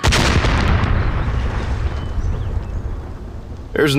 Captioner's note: TNT explosion triggers a landslide